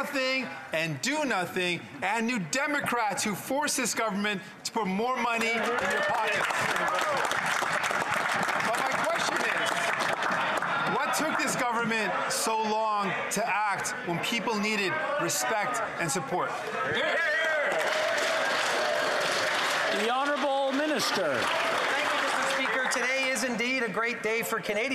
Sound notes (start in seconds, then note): 10.1 applause; 19.7 some Applause